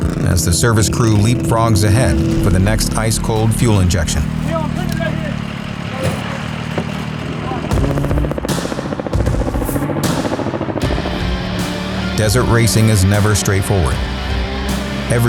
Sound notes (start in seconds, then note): 7.9 blades whooshing; 10.7 intense music